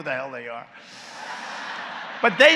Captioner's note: laughter